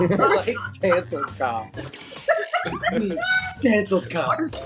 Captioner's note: group laughs